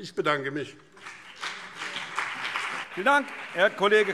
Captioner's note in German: Beifall BÜNDNIS 90/DIE GRÜNEN und CDU